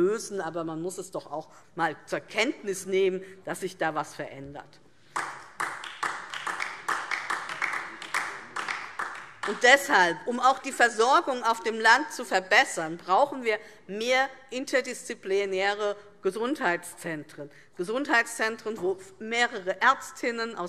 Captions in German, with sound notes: Aber man muss zur Kenntnis nehmen, dass sich da etwas verändert. [Beifall DIE LINKE] Um also die Versorgung auf dem Land zu verbessern, brauchen wir mehr interdisziplinäre Gesundheitszentren, in denen Ärztinnen und Ärzte aus